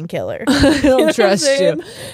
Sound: both laughing

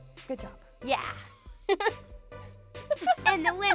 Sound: laughs

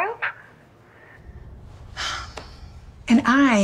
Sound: sigh

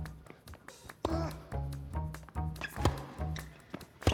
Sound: Marshall grunting; racket smacking; rackets smacking

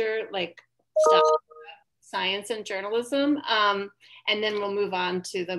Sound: computer notification rings

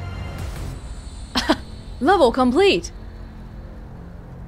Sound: chuckles

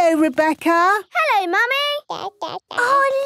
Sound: babbling

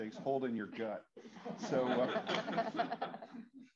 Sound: laughter

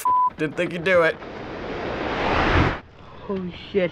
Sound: water roaring

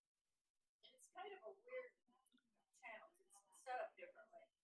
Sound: faintly speaking

